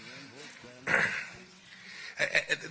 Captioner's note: laughter